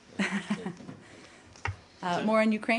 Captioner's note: laughter